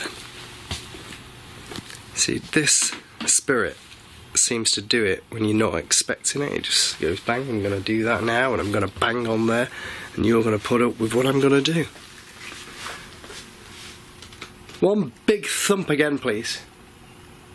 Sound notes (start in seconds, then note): none